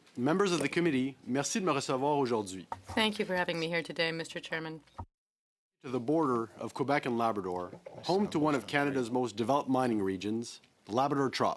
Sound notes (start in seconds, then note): 7.3 speaking French